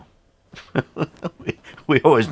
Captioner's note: host laughing